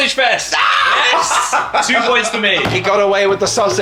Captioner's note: screams